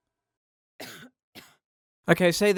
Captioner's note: quiet cough